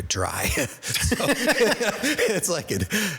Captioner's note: chuckle